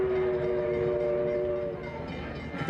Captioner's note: train whistling